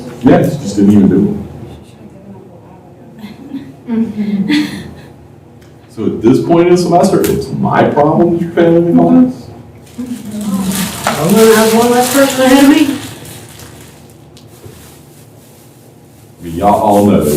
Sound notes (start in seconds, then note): 6.1 laughter